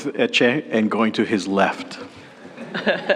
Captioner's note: laughter